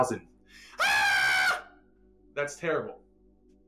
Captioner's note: screams